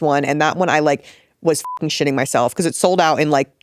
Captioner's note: beep